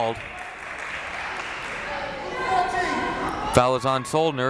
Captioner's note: crowd clapping